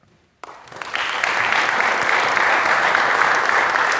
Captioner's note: audience clapping